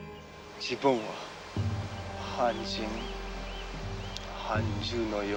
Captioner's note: speaking foreign language